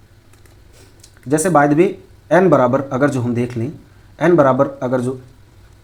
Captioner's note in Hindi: नाक से की जाने वाली आवाज़